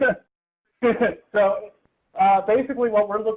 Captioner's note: laughter